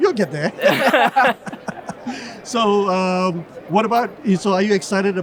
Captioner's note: group laughing